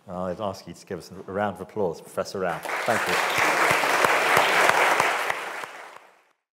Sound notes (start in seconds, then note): 4.1 audience applauds